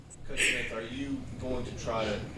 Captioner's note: voiceover